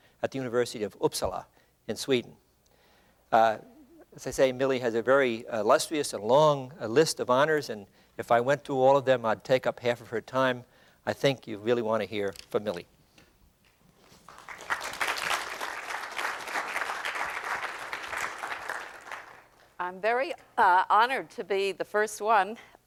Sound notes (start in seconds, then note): 14.1 applause